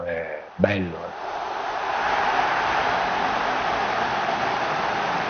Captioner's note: crowd cheering